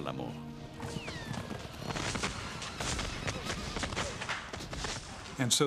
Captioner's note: guns firing